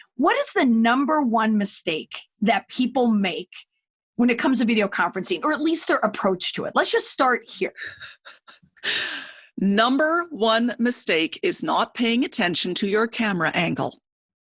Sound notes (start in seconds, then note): 7.7 chuckles